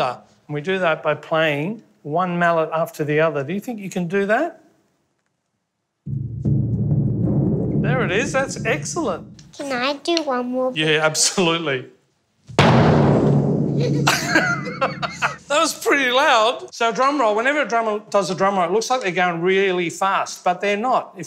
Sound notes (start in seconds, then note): 6.0 drumming; 12.6 loud drumming; 13.8 giggles